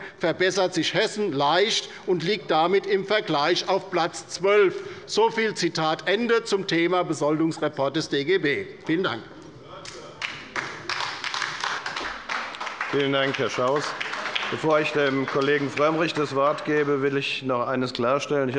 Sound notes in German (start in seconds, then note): 10.2 Beifall bei der LINKEN - Zuruf von der SPD: Hört, hört!